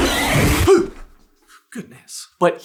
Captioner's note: gasp